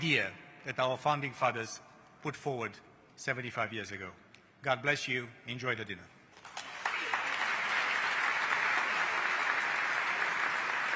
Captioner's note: applause